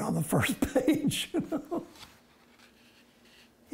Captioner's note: laughs